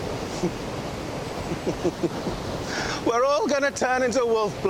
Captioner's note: chuckles